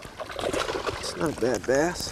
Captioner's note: splash